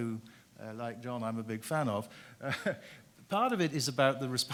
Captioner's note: chuckles